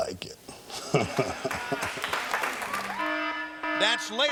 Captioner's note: audience applauding